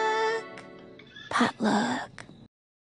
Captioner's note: whispering